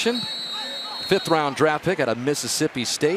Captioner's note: whistle